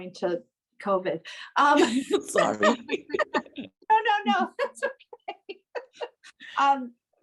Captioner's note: laughter